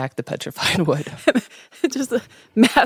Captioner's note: laughing